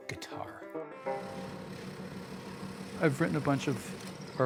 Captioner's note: drilling